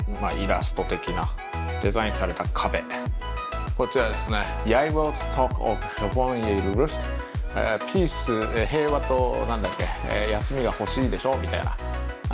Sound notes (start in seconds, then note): 4.6 reading Dutch Texts